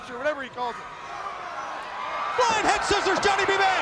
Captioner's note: crowd cheering